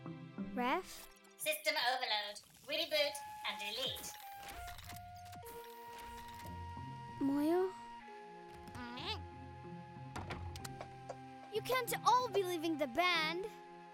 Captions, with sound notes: - Ref? - System overload. Reboot and delete. (whirring) - Moyo? (grunts) You can't all be leaving the band!